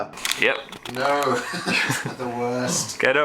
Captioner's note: laughs